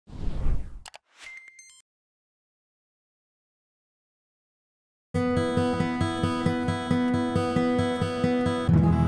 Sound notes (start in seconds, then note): 0.1 whooshing; 1.1 beeping